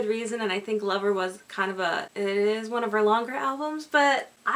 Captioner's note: stammers